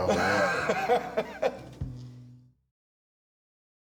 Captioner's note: Bron laughing